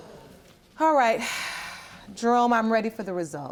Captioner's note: sighing